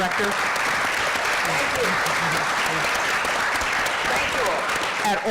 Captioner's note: applause